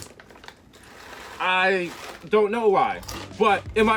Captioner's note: Mero crunches Corn Nuts